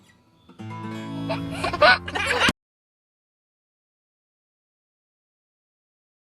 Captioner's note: guitar music; laughs